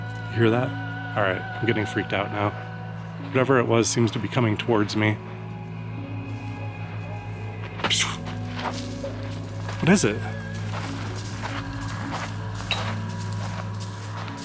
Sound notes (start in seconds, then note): 7.1 kicks dirt, rocks and makes noise; 11.1 rustling noise in brush